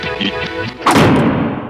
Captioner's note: door Slams